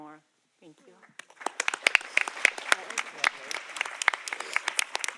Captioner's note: audience applauding